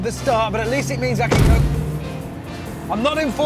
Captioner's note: thud